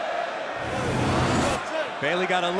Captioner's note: whooshing sound plays